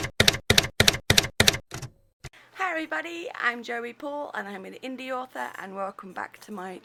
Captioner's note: typewriter keys clacking